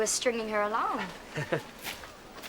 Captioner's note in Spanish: Slade se ríe